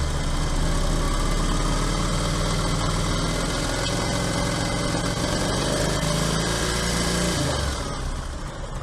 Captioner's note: engine starts and is running; revving engine